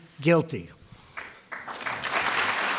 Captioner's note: applause